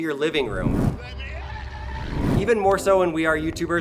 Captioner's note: man screams